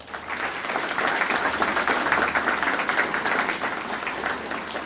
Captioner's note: audience applauding